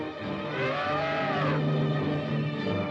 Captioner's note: dramatic music; elephants trumpet; dramatic music